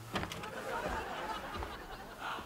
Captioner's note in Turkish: Gülme efekti